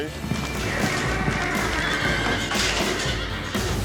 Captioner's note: horse neighs; thud